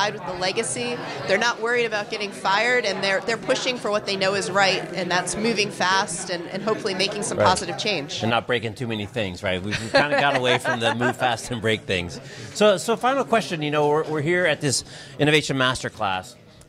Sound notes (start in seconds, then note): 9.7 laughs